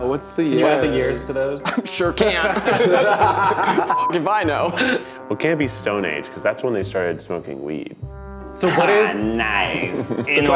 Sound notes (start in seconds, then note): 2.4 everyone laughing